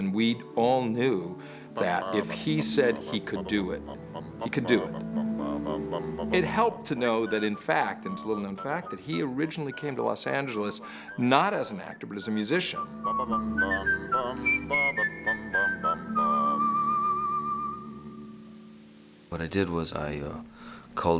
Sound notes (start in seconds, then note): 12.7 both humming